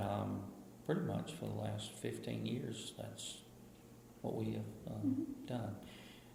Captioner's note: BOTH laugh